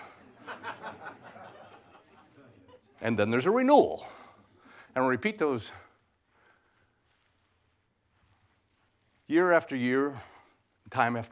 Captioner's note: laughter